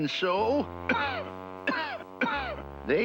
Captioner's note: coughing